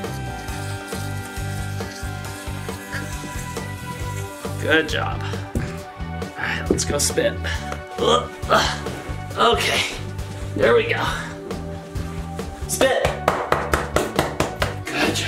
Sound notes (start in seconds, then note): 0.0 electric toothbrush vibrating; 8.2 grunting; 13.6 smacking back